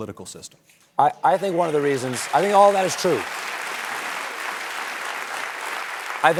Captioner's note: applause